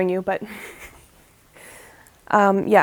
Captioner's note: laughs